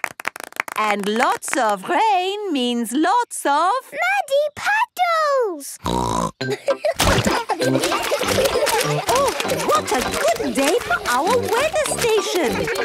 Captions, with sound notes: And lots of rain means lots of? - Muddy puddles! (snorting) (laughter) - Oh, what a good day for our weather station.